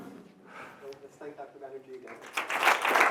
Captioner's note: voiceover; applause